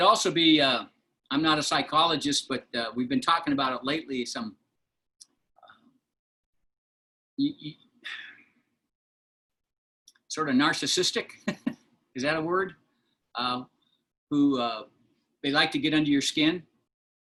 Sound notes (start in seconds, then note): 11.4 laughter